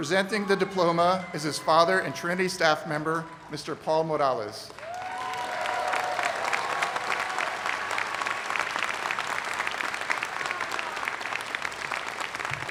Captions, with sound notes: CHRISTIAN E. MORALES, PRESENTING THE DIPLOMA IS HIS FATHER AND TRINITY STAFF MEMBER, MR. PAUL MORALES. [ APPLAUSE ]